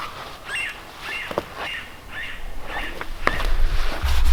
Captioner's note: birds chirping